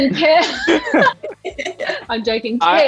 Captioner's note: all laughing; Archie laughs